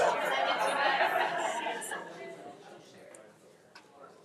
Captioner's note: attendees laughing; attendees chattering